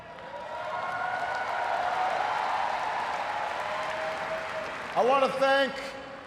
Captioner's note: cheers, applause